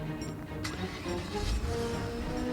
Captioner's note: engine starts again